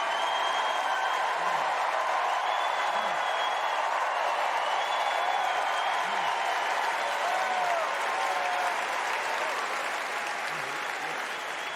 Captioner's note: cheers and applause